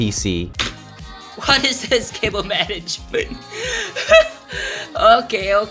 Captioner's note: laughs